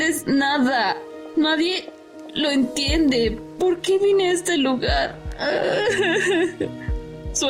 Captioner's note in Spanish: solloza